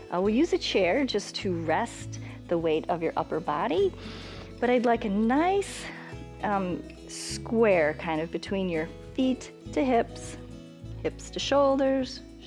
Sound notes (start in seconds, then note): 4.0 inhales